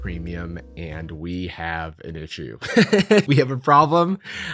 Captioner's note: laughs